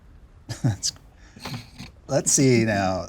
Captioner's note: chuckles